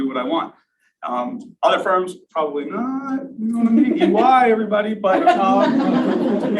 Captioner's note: laughter